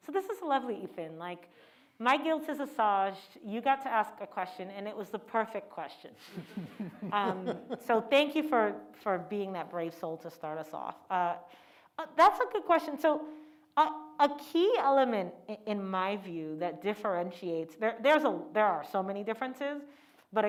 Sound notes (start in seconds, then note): 6.3 laughs